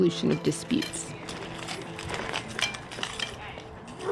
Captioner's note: wheelchair rolling; dogs barking